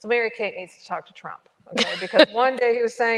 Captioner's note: chuckles